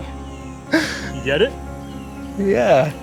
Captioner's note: gasps